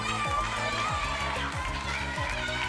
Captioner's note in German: Jubel